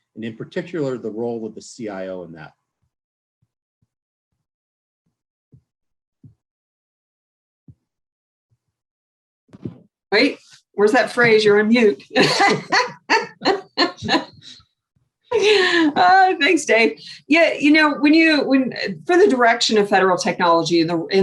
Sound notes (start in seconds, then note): 12.1 laughs loudly